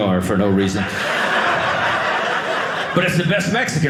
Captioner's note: audience laughing